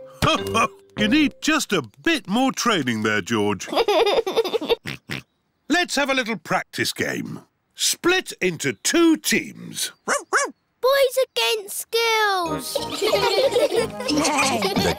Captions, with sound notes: Ho-ho! You need just a bit more training there, George. (GIGGLES AND OINKS) Let's have a little practice game. Split into two teams. (BARKS) Boys against girls! (ALL GIGGLING)